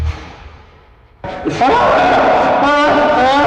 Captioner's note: screaming